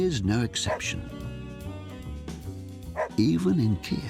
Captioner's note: dog barking